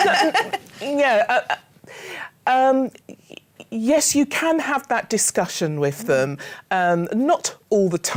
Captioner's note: laughs